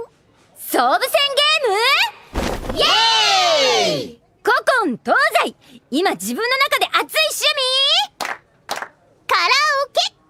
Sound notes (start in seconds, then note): 8.6 clap clap